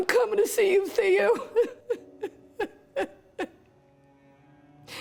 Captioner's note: cries